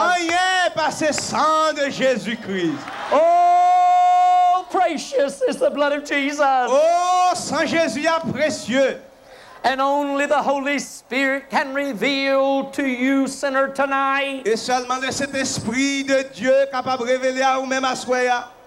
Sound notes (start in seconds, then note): 2.8 crowd cheering boisterously